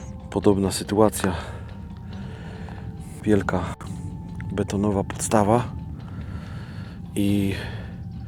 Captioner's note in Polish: dyszenie